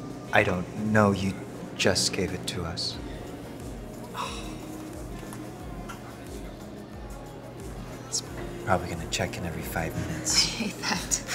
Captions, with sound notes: - I don't know. You just gave it to us. [WAITER exhales] He's probably gonna check in every 5 minutes. - I hate that.